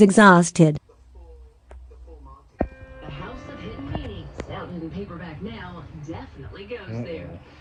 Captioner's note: TV continues playing